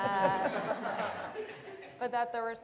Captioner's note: audience laughter